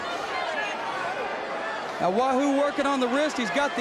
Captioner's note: crowd chatter